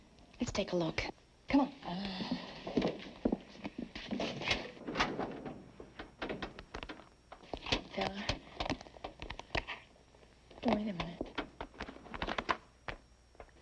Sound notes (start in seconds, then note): none